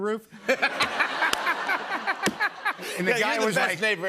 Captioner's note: laughter